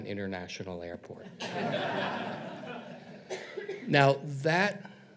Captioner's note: audience laughs